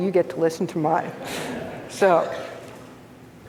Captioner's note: audience laughs